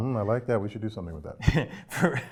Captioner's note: laugh